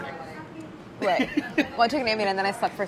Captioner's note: laughing